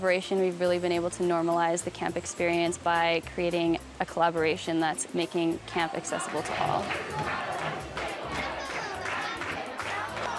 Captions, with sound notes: we've really been able to normalize the camp experience by creating a collaboration that's making camp accessible to all. [chanting]